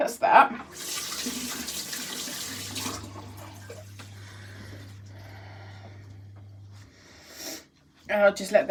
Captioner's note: running water